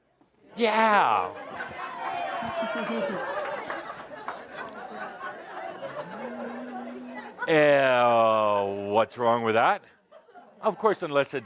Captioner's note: laughter and applause